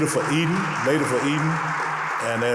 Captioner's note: audience applauding